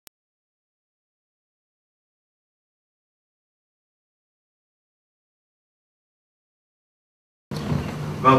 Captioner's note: silence